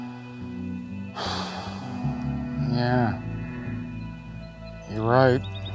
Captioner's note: sighs